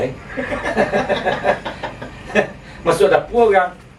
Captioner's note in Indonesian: Tertawa